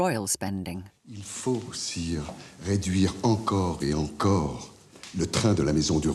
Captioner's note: men speaking in French